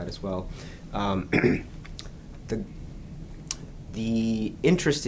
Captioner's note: clears his throat